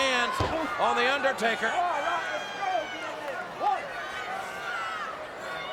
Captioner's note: crowd shouting